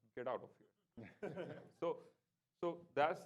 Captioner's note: laughing